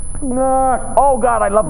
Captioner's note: high pitched ringing